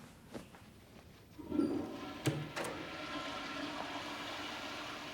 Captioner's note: toilet flushing